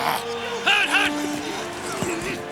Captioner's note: growls